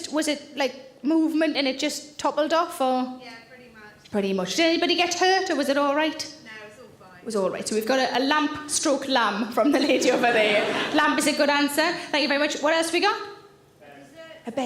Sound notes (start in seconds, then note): 9.7 audience laughing